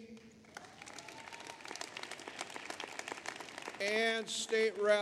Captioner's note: applause